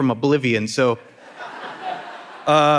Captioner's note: audience laughing